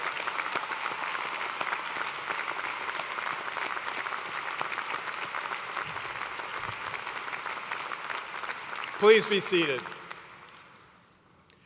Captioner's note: applause